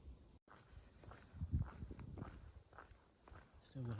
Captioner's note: footsteps